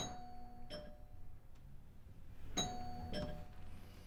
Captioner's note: doorbell rings